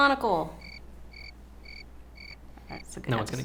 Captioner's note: crickets cricketing